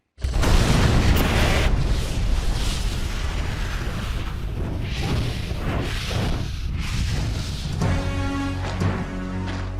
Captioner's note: explosion